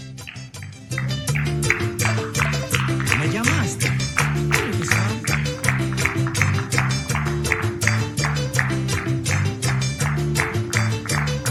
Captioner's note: applause